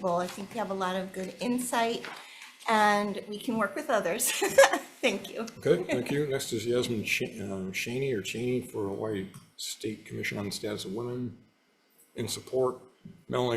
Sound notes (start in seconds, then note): 5.6 laughing